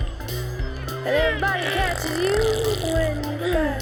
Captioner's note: farting sound